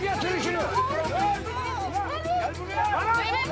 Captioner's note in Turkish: Bağrışma sesleri